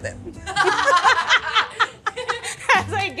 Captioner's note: people laughing